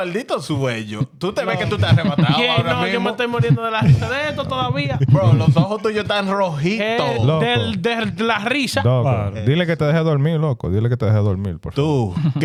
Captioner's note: laughing; speaking In Foreign Language